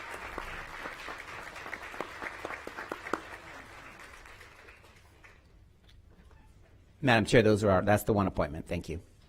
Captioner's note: applause